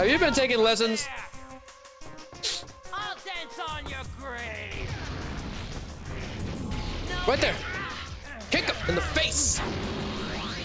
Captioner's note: snorts